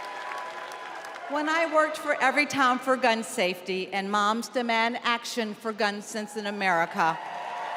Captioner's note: cheers and applause